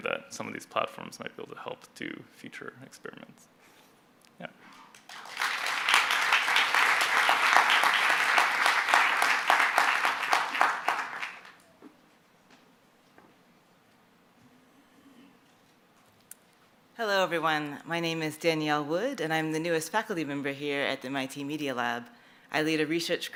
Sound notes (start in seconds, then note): 4.9 applause